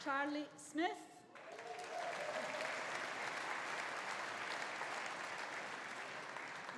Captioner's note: audience applauding; audience cheering